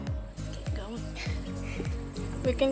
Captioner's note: chuckles